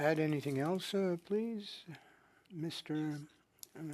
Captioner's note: speaking French